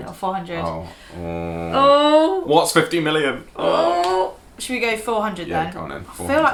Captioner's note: groaning